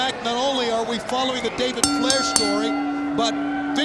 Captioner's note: bell rings